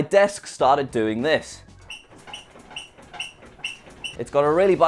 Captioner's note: squeaking